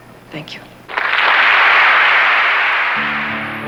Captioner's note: applause